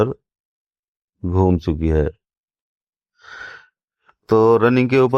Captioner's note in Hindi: गहरी सांस लेने की आवाज़; अचानक ज़ोर से सांस लेने की आवाज़